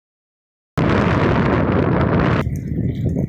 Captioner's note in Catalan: Bufa fort el vent